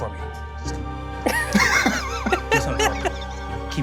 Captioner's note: laughing